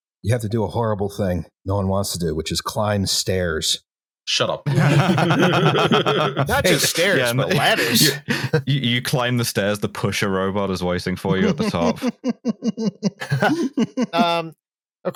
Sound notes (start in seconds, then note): 4.6 laughter; 11.2 laughs, dampened